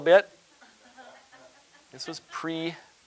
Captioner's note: audience laughing